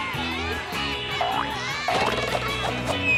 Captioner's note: diving board boinging; air whooshing